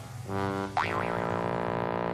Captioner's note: boing